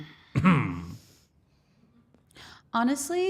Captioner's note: Liv clearing her throat; Cody clearing his throat